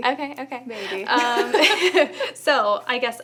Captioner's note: laughter